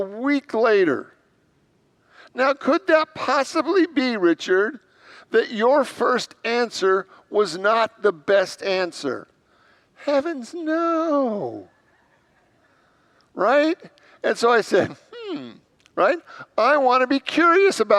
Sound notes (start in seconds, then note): 11.7 congregants laugh